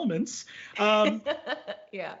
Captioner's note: laughs